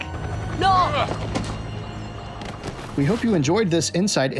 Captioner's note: man and women screaming in background